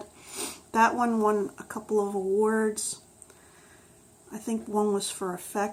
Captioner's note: sniffs